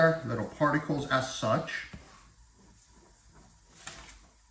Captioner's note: drawing noises